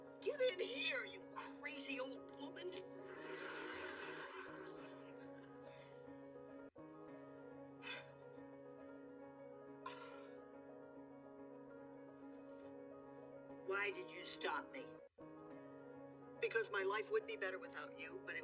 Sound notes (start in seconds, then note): 5.6 sighs; 7.8 huffs